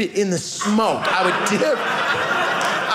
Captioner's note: audience laughing